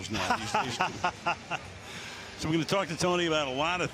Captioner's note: laughs